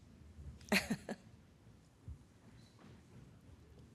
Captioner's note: laughs